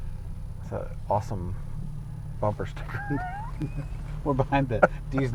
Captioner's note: laughing